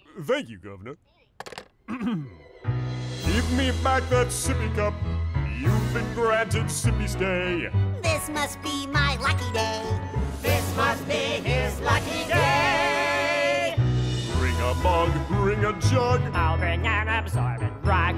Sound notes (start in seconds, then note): 1.8 ahem